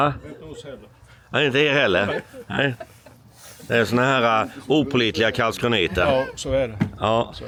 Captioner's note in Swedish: skratt